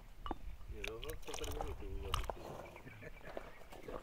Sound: food splashing

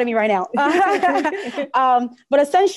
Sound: laughs

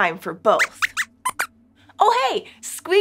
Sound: squeaks squeaks

